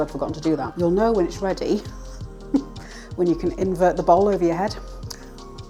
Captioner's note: laughs